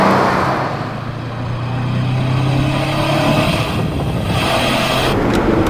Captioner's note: original exhaust sound